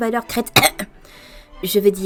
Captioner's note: ahem